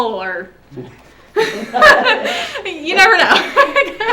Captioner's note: laughs; laughing